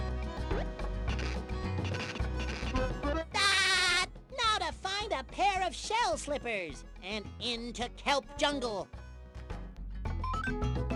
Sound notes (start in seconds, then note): 3.4 laughing